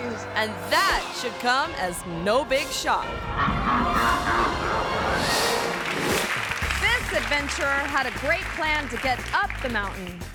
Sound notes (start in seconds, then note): 3.2 screen whooshes; 3.5 monster laughs